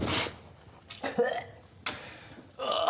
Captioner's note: spits